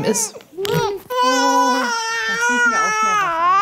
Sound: baby crying

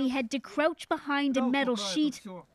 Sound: speaking Foreign Language

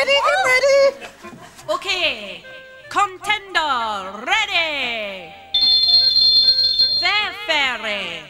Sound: on megaphone

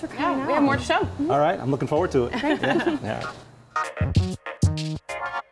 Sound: laughter

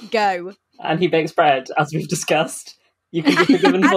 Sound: laughing

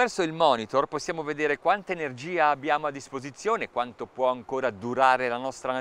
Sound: speaking in foreign language

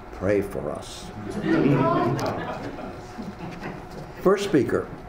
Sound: audience laughs

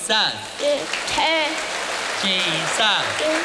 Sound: applause

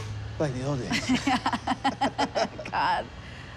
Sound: laughing

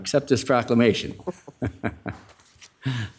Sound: laughter

